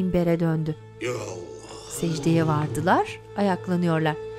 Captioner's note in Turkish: Hep bir ağızdan